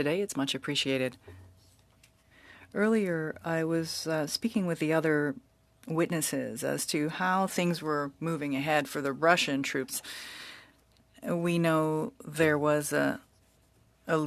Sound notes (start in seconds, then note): 3.9 speaking French